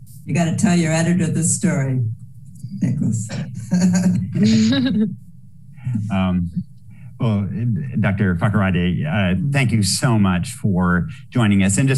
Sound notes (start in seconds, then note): 3.5 laughter